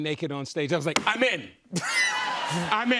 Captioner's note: laughter